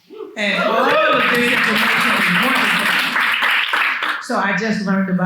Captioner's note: attendees cheer and clap